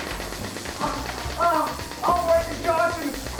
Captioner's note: electricity buzzing; groaning